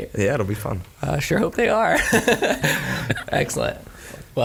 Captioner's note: laughs